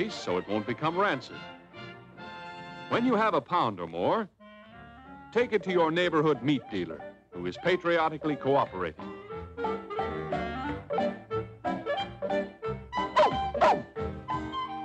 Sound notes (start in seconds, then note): 13.1 barks